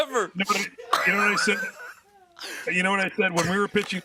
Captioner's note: laughter